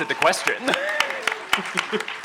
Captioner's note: applause; laughs